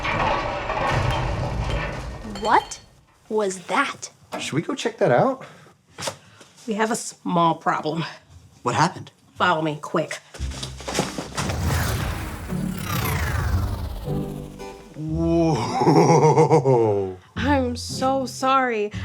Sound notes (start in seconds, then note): 10.4 light music; 11.4 electricity whirring